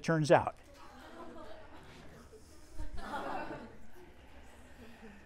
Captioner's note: students laughing